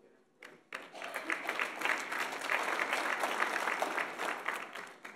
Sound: audience applauds

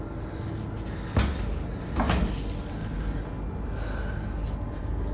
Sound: door bangs

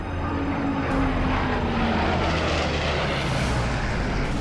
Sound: solemn music plays; engine roaring

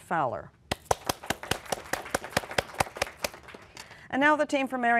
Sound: applause

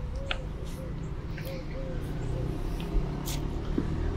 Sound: traffic humming

